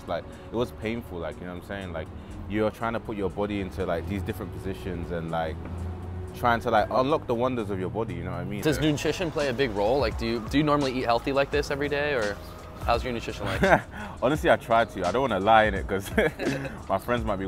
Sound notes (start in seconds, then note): 13.4 laughs; 16.0 both laughing